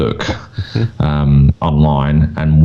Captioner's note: laughs